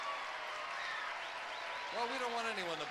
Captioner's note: audience cheering